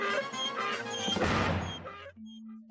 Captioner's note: donkey braying